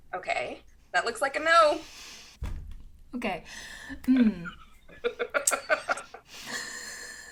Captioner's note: laugh